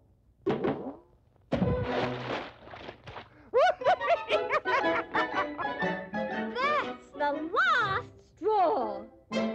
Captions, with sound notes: (Laughs) That's the last straw!